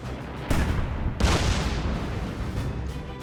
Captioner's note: shells exploding; dramatic music